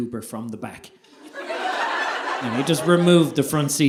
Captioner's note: audience laughing